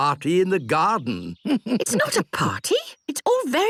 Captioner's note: chuckles